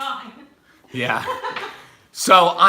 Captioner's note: laughs